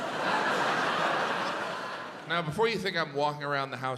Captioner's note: audience laughs